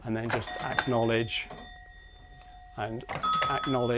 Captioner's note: a bell rings